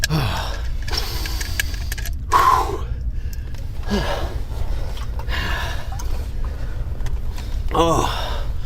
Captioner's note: panting